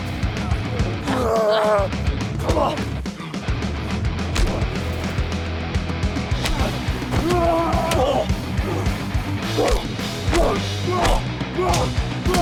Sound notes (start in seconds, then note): 0.3 dramatic music; 6.4 both moaning